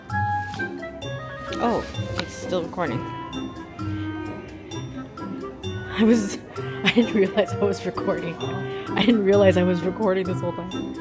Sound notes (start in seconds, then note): 6.1 laughs